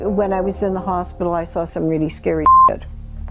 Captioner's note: beep